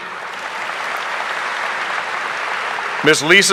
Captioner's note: audience applauding